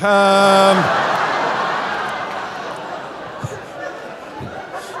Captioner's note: audience laughing; laughing